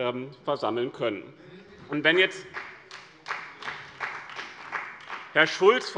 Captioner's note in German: Beifall bei dem BÜNDNIS 90/DIE GRÜNEN und der CDU